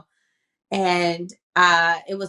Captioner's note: none